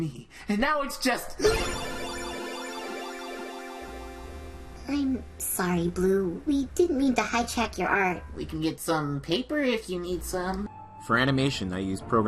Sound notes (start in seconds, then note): 1.4 digital tones